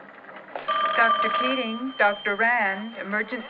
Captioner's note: phone ringing